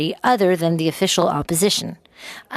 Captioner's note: speaking French